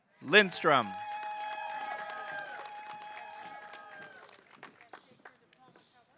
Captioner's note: audience cheering and applauding